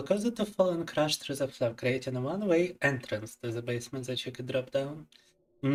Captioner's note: speaking in Russian